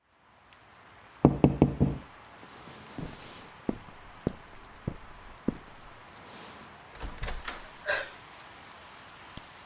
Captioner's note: rain, a knock. Footsteps as you rise and open the door